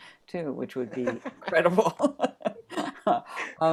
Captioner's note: chuckles